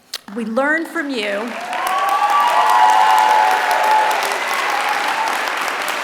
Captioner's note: applause